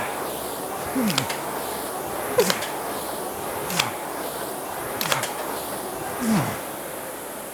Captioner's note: grunting